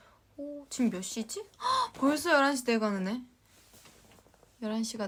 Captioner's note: gasp